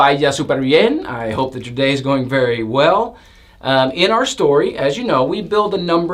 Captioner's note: Spanish